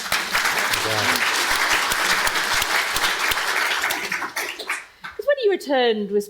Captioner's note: audience and panelists clapping